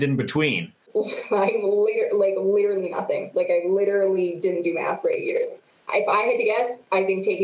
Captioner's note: chuckles